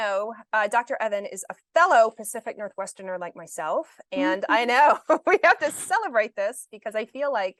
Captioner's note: chuckles